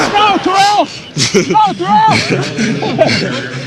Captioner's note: laughter